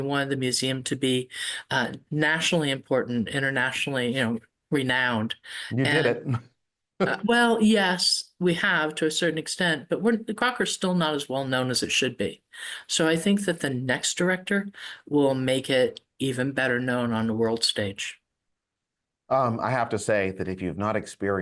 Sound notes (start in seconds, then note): 5.8 chuckles